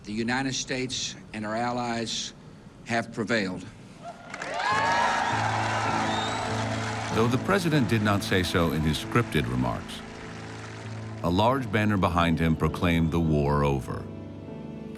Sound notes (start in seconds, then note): 4.1 cheers and applause